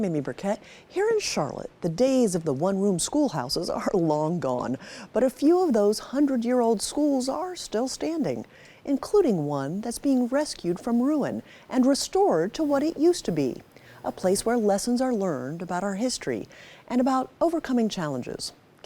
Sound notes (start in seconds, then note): none